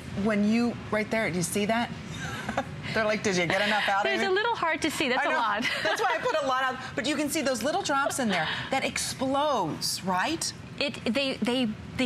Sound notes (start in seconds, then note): 2.2 laughter